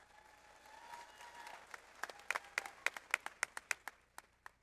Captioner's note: audience applauds